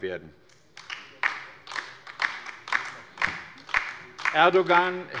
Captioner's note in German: Beifall bei der LINKEN